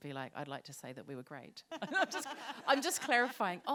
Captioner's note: laughter